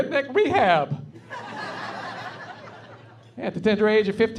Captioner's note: laughing